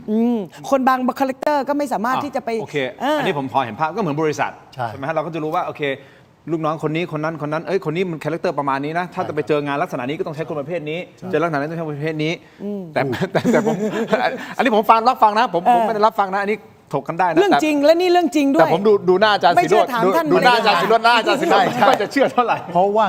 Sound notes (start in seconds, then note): 13.1 laughter